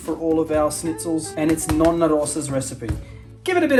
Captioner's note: speaking Italian